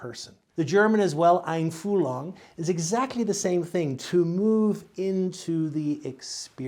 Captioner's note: speaks German